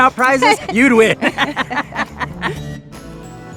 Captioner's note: laughter